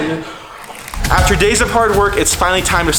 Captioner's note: wood splinters; feet bang on wood